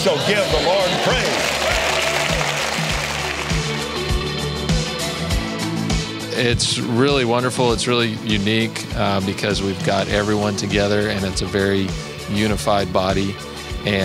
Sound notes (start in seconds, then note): 5.1 applauds